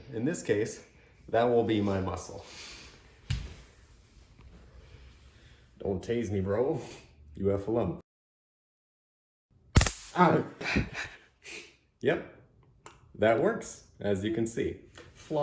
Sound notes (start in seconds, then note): 8.8 camera woman chuckles sadistically; 9.8 taser crackles